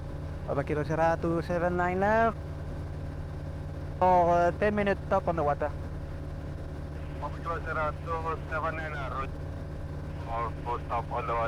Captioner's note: talking to atc